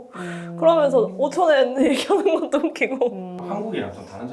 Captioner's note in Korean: 웃음